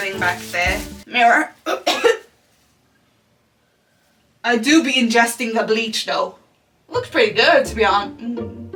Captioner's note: coughs